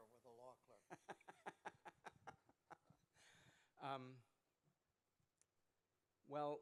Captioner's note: laughter